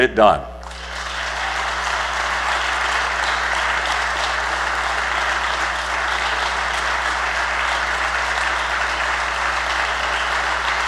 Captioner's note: applause